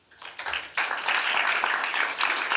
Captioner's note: applause